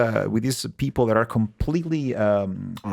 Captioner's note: speaking in Spanish